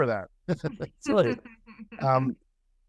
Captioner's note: laughter